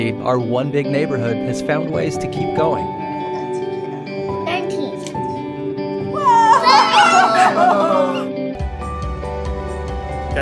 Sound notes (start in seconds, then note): 6.1 child cheers; 8.4 bright music